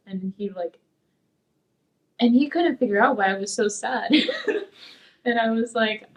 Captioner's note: laughs